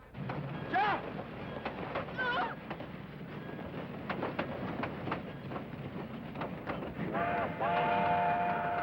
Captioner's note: train Clacking and Whistle